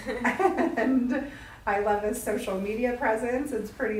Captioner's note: laughs